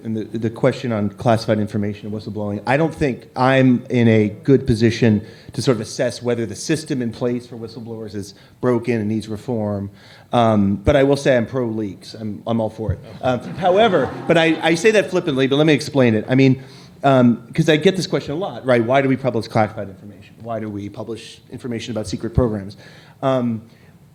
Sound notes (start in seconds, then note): 13.0 laughter